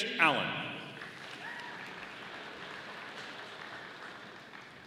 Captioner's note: audience applauding